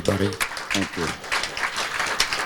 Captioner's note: audience clapping